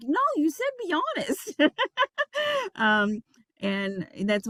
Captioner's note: laughing